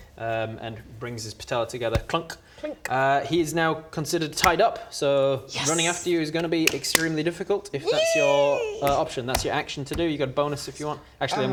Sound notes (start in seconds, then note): 1.9 clunk; 2.5 clink